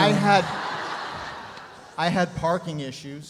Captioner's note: audience laughs